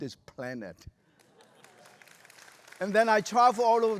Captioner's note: applause